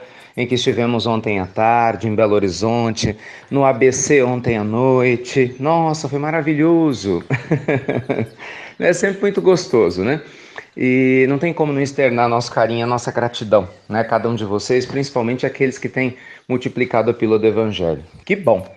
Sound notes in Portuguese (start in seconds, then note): 7.2 Risos